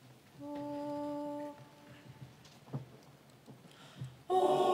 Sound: speaking french

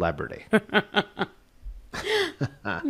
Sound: laughing

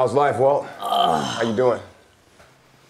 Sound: Walt groaning

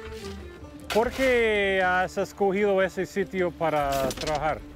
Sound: speaking Spanish

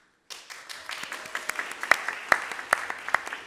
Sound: applause

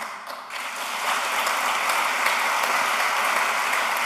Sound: applause

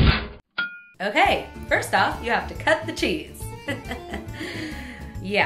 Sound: chuckles

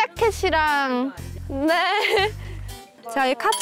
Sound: hahaha

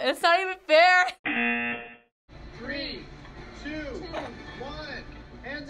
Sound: buzzer

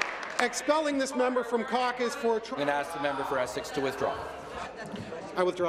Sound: some Applause

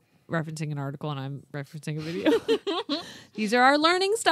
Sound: laughs

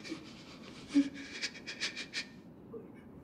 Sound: shuddering breath

